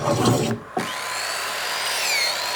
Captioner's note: whirring